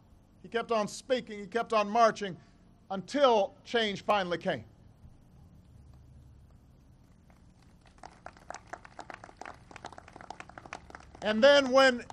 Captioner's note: applause